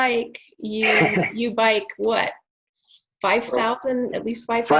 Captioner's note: chuckling